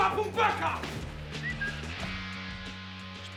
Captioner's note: whistles